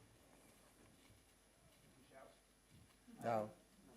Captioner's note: murmuring